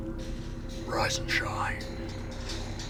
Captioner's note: whispers